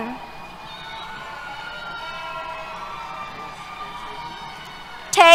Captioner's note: cheers